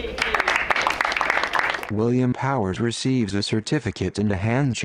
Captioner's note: crowd applauds